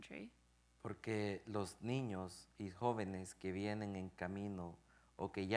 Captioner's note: speaking in Spanish